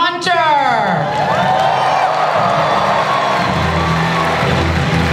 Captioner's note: audience cheering and applause